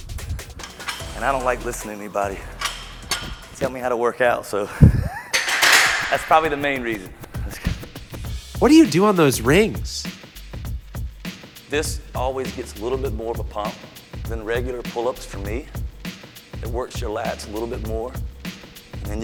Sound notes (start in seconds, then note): 4.5 laughs; 6.4 weights clanging